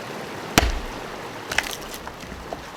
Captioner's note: whack